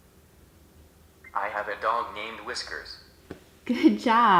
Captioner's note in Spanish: voz masculina del aparato